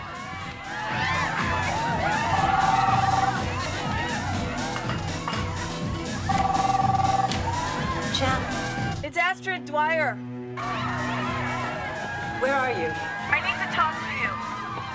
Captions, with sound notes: (dance music continues, women whooping) (phone ringing) Chan. It's Astrid Dwyer. Where are you? I need to talk to you